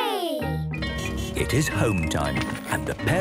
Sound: bell ringing, beeping

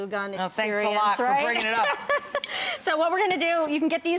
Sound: laughing

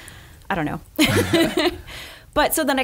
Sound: laughing

